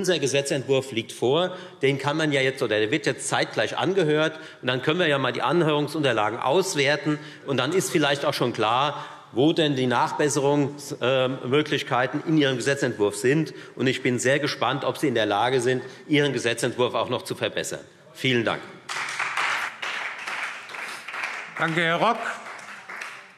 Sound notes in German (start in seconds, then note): 18.8 Beifall Freie Demokraten und vereinzelt SPD